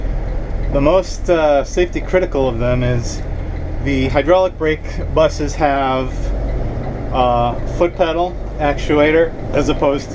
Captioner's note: parking brake